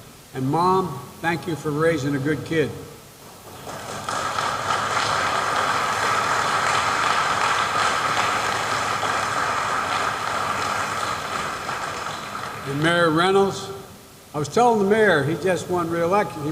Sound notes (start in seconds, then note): 3.2 applause